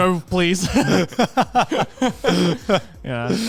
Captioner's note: laughing